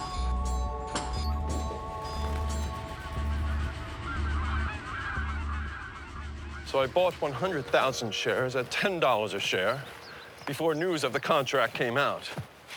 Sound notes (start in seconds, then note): 3.7 geese quacking